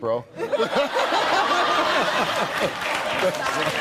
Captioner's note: laughing